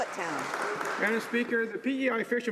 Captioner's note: some Applause